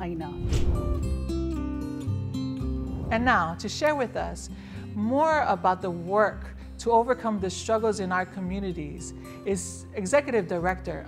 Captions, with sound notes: (air swishes) (air swishes) And now, to share with us more about the work to overcome the struggles in our communities is Executive Director of the Native Hawaiian Legal Corporation,